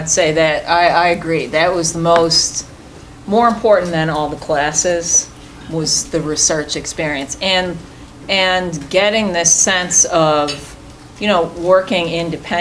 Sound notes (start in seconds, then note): none